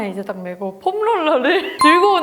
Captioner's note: laugh